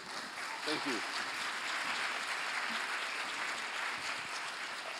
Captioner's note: applause